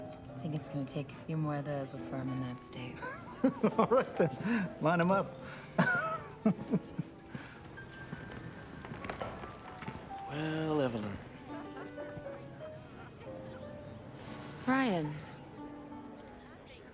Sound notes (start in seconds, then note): 5.7 laughs